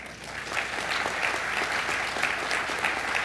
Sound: applause

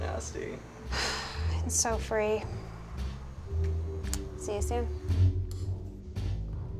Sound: sighs

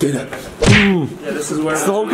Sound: fists thump

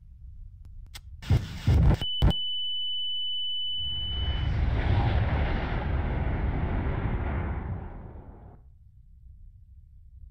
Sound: tank fires and missile detonates

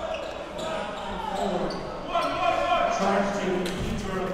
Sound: crowd cheering

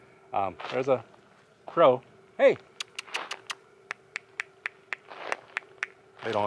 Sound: clicks tongue

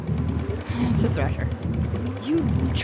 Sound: reel cranking

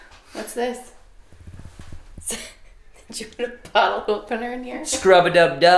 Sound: laughing

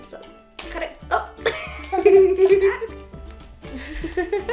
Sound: laughing; whimsical music

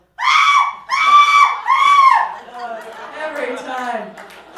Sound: shrieking

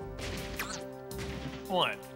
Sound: thud

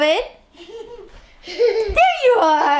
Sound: laughing

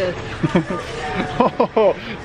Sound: laughing

